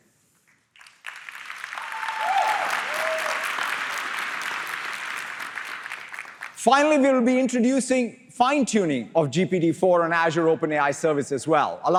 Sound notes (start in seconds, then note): 0.7 applause